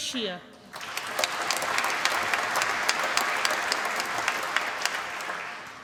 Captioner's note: applause